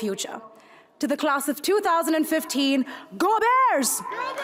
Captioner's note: crowd shouts and claps